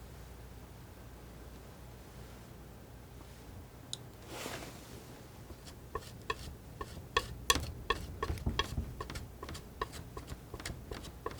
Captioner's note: tapping